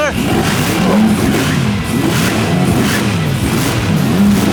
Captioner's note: engines revving